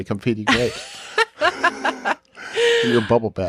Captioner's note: chuckles